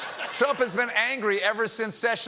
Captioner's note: laughter